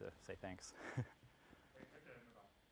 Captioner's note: laugh